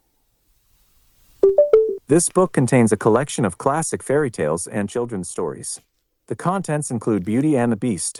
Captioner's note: chime